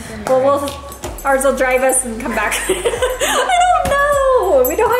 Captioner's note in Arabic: ضحك